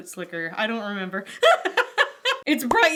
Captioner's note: laughs